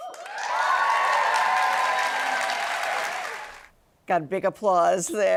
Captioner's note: applause